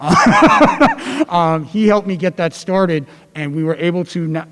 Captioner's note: laugh